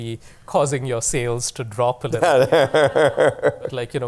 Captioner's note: laughter